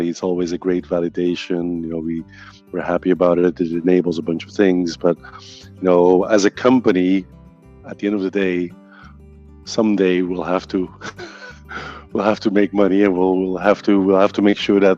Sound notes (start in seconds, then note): 10.9 laughing